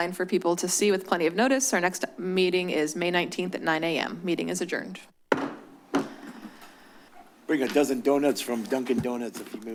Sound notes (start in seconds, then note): 5.3 gavel tap